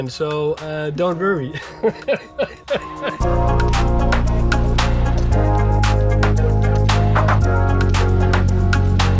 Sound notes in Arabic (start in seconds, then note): 1.5 يضحك; 3.4 موسيقى مبهجة